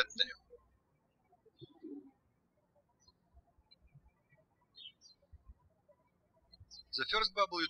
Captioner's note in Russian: птички щебечут